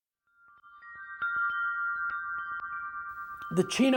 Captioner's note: sound of wind chimes